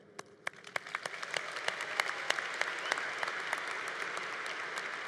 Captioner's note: congregation applauding